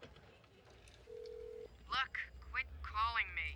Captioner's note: telephone ringing